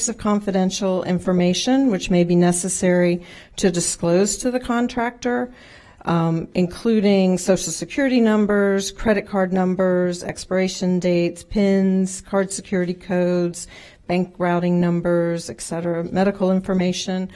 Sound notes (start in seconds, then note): none